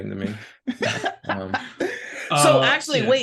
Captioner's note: laughing